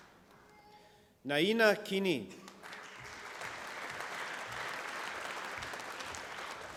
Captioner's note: applause